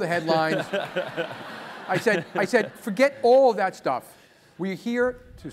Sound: laugh

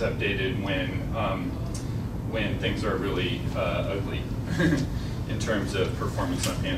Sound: laughs

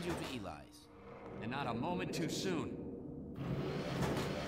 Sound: sirens in the distance

